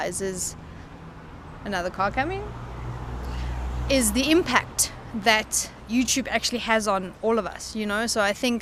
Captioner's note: another car coming